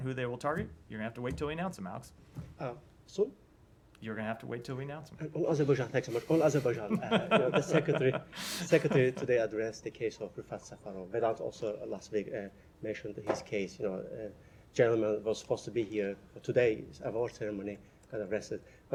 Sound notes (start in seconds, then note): 6.1 laughter